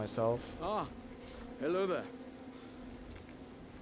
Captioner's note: sniffle